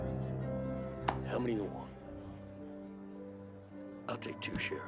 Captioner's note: slapping the table